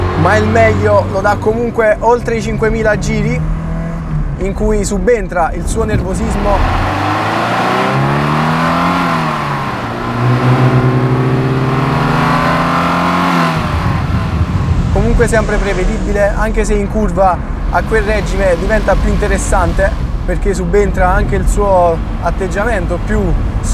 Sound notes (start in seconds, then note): 6.7 intake SOUND at full gas; 10.0 gloomy SOUND from exhaust